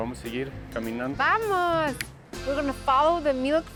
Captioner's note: speaking Spanish